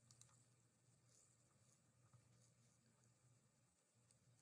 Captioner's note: mouse clickings